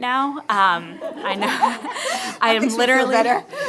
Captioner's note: laughter